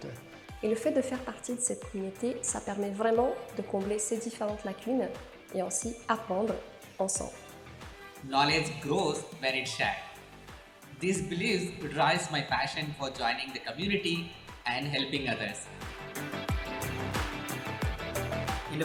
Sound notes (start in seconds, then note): 1.0 speaking foreign language; 16.6 upbeat music